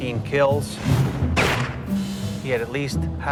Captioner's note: gunshot fire